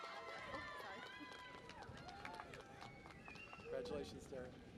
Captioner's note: cheering and Applause